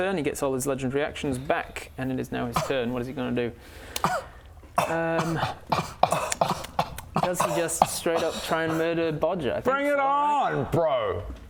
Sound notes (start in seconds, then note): 3.6 scoff; 5.2 symphony of scoffs